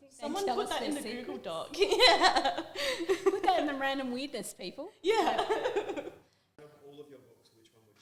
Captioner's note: laughter